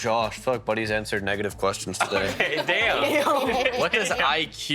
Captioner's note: laughing